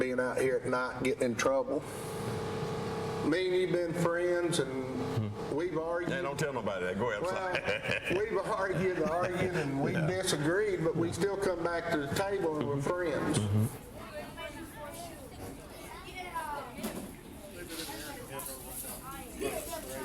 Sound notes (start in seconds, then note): 7.0 laughs; 14.4 background chatter